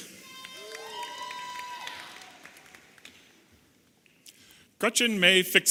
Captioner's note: audience applauding and cheering